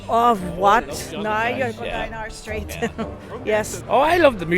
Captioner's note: laughs